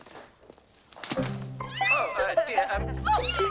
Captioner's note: kittens mewing